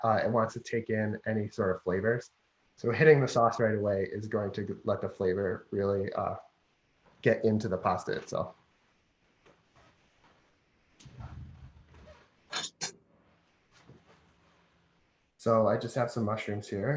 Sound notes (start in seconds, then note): 10.5 silence